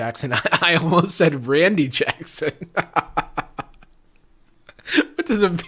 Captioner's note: laughs